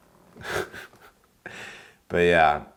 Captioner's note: laughing